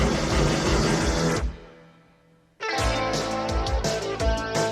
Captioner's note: none